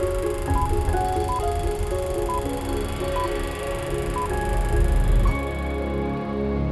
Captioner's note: beeping